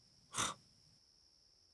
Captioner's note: laughing to himself